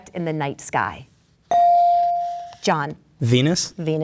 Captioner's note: bell dings